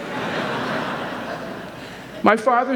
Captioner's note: audience laughing